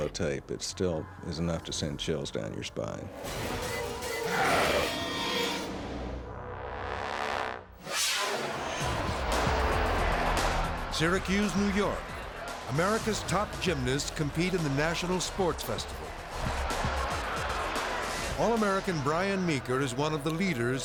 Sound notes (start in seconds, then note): 3.1 tense dramatic music; 3.5 growls; 7.8 energy whooshes; 9.3 crowd shouting; 16.8 energetic lively music